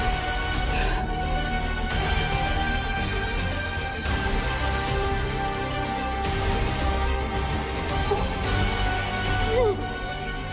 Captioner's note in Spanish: Sollozos